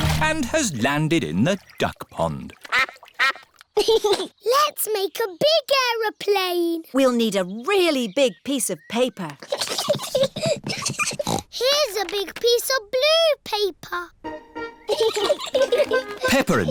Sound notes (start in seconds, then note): 2.6 quacking; 3.7 giggles; 10.4 snorts; 14.8 both giggling